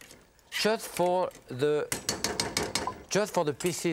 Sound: metal spoon slamming pot

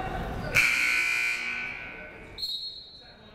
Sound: buzzer sounding; whistle blowing

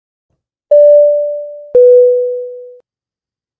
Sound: logo pings

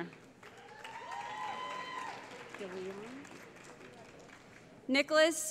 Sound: cheering

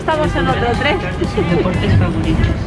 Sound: laughs

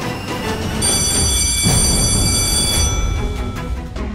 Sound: school bell ringing

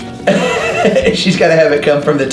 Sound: laughs

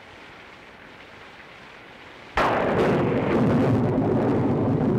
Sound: thunder

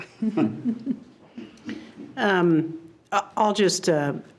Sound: board members laugh

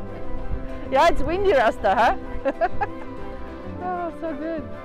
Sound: laughing

